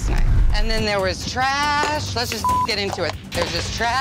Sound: beep

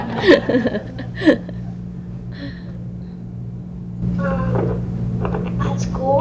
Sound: laughter

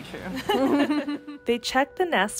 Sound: laughing

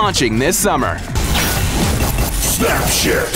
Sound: logo clanking

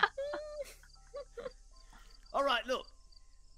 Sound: all laughing

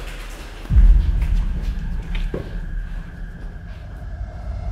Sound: rustling noise; scary music

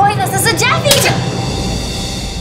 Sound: loud slapping; tense music

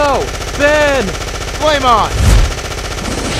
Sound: gunfire; flaming sounds; fireball sounds; whooshing sounds

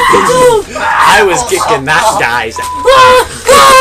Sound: beep

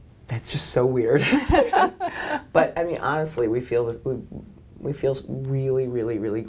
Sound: laughter

